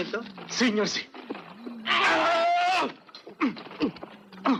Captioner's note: grunting